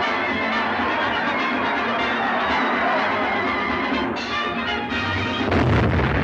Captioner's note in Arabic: الجمهور يواصل الصراخ; موسيقى صاخبة مستمرة